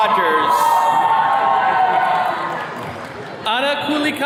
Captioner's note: attendees cheering